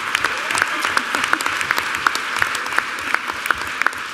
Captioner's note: applause